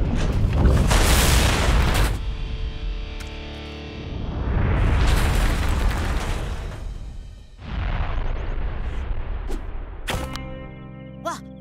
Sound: explosion

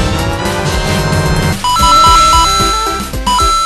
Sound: ding

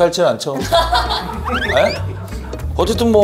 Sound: haha

